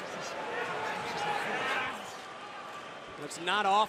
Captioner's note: crowd chatter